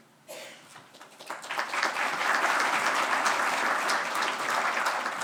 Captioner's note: audience applauding